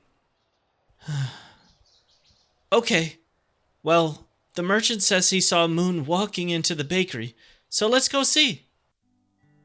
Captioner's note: sigh